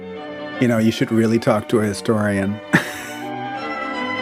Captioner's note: laughs